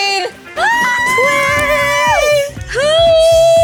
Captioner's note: both screaming in joy